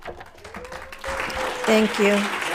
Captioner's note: applauds